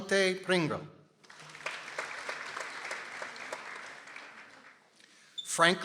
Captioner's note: people applauding